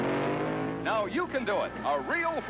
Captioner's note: engine roaring